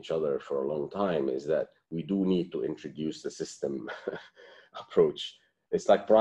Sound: laughter

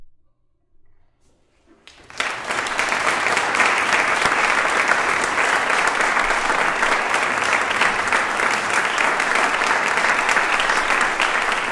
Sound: applause

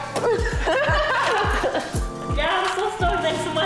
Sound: laughing

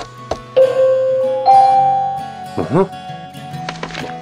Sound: bell ringing

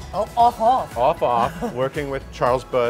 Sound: giggles

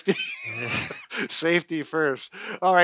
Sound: laughter

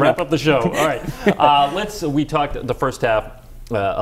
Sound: laughter

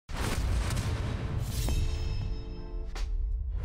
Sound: explosions

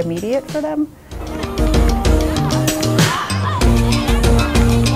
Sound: children playing

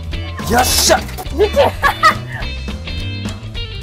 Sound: laughing

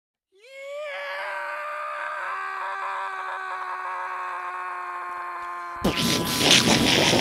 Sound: scream; explosion

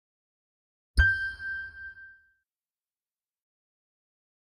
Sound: ding

